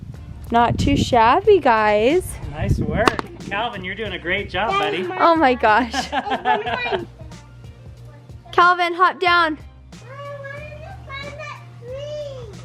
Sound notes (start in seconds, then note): 4.7 laughing